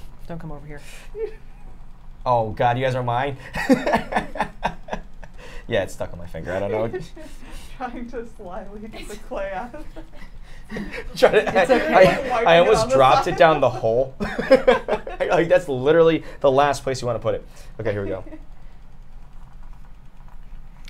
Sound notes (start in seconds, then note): 3.4 laughs